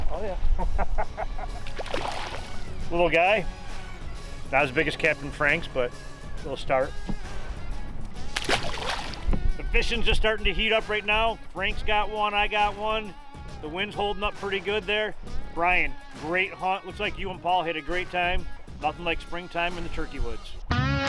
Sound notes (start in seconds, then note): 1.5 water splashed; 7.3 rock music; 8.0 water splashes; 20.6 rock music